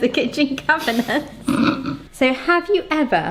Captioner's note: snickers